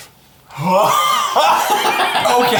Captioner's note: laughs